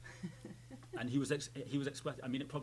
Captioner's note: laughing